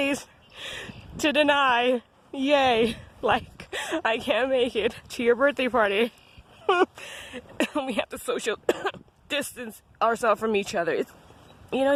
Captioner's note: fake Coughs